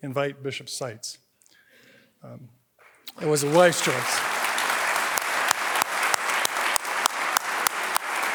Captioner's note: applause